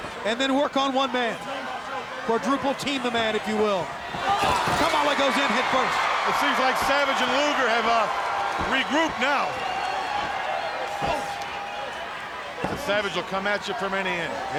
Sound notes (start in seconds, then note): 4.7 wrestlers grunt; 5.7 crowd screaming